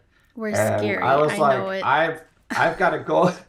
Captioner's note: laughter